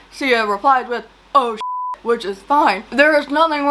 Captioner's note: beep